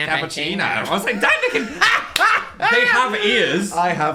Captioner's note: laughing